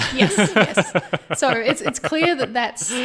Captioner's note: laughing